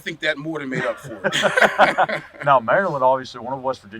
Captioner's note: laughing